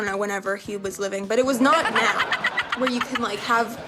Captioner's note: audience laughs